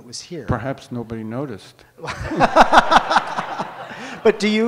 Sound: audience laughs

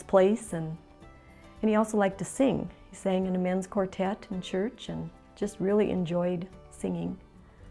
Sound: none

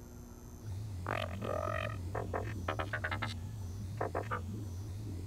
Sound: robot noises

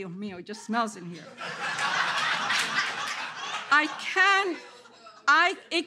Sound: audience laughter

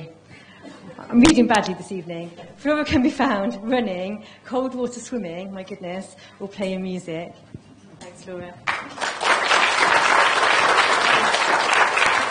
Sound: applause

